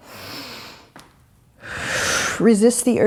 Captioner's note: breathing